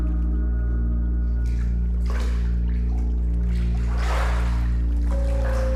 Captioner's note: water splashes